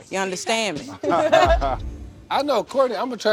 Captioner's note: laughter